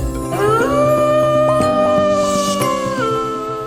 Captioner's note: wolf howling